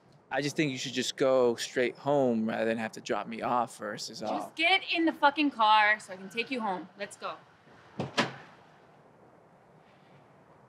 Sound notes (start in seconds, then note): 7.9 opens car door